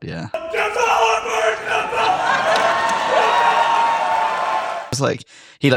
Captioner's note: audience cheers